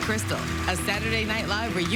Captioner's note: applause